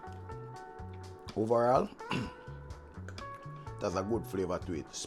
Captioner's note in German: Räuspergeräusch